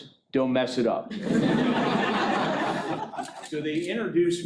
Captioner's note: laughing